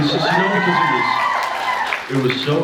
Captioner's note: cheers